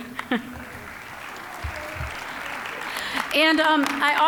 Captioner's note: applause